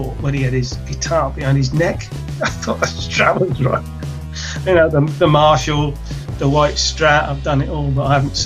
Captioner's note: laughs